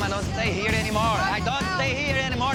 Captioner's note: shouting